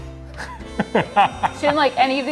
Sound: laughs

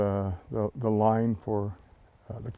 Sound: none

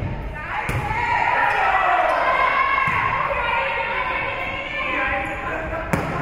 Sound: spectators shouting encouragements

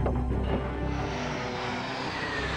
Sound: planes whir

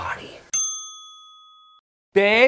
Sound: bell chiming

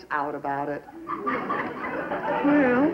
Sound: laughter

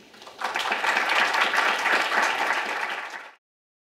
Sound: applause

